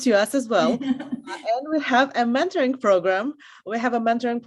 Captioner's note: laugh